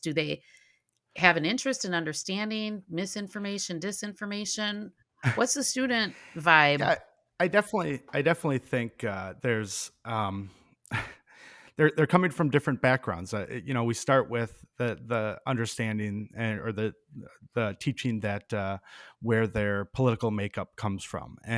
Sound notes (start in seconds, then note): 5.2 chuckling; 10.9 chuckles